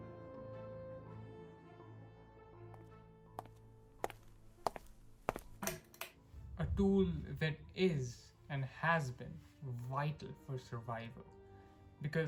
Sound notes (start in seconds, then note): 3.3 footsteps